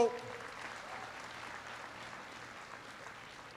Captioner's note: applause